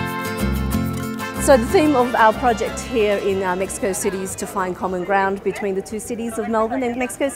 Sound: Spanish

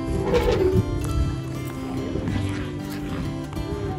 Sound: elephants trumpeting

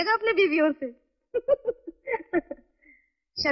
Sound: laughs

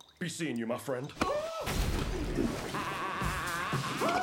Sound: gurgling; laughing; screaming

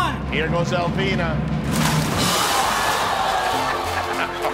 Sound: splashing

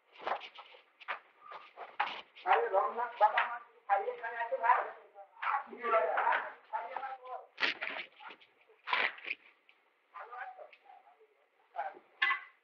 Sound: Hindi

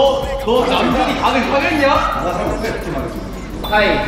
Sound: confident

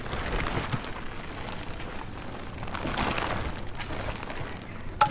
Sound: sounds of nature

